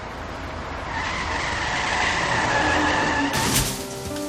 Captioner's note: car crash